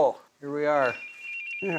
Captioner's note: cell phone ringing